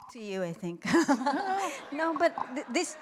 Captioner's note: laughs